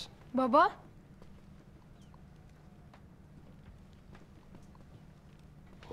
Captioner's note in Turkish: Sessizlik